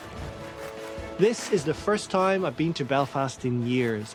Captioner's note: voice-over